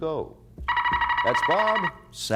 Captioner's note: buzzer sounds